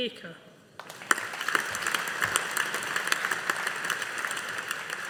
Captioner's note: audience applauding